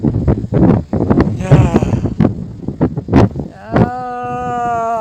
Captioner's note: the gust of wind